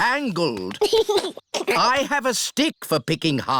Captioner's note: giggles